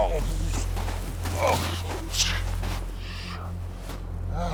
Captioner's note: footsteps thudding; James groaning